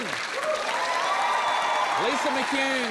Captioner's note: cheering, applause